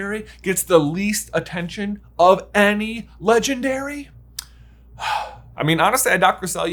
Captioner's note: sighs